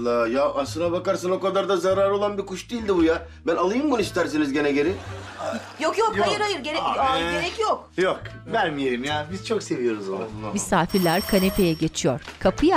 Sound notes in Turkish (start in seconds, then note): 10.8 Kapı zili sesi